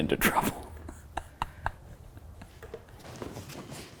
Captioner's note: laughing